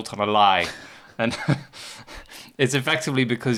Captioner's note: chuckles